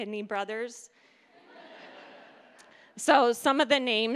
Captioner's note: audience laughing